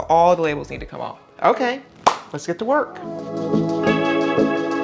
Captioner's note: claps; upbeat music